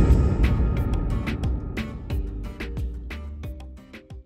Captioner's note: gong rings